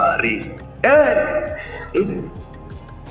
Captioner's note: excited shouting